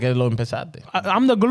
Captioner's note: speaking In Foreign Language